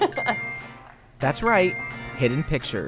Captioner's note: laughter